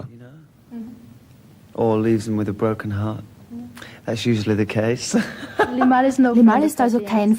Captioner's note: laughing